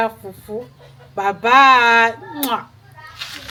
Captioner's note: kisses